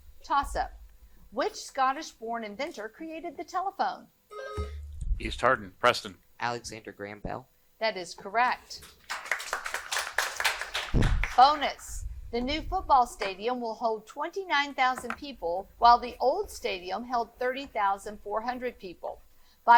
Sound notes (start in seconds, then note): 4.3 buzzer buzzing; 8.9 audience applauding